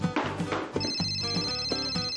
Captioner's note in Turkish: Telefon çalar